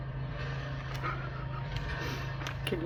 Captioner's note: laughs